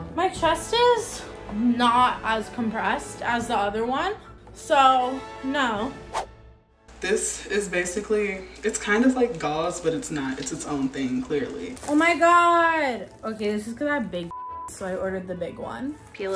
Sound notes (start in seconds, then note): 14.3 beep